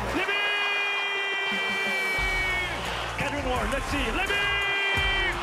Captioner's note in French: cris des spectateurs